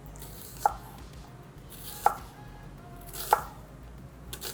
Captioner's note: knife clacking